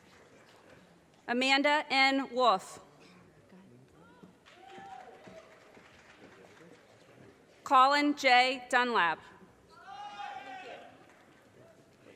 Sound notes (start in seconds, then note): 4.5 audience cheers and applause; 9.8 audience cheers and applause